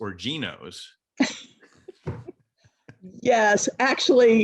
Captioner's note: both laugh